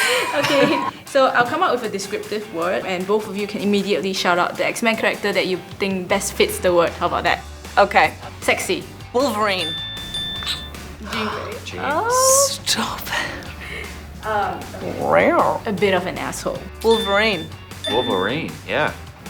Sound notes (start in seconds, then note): 14.2 cat meow